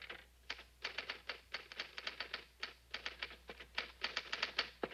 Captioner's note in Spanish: sonido de teclas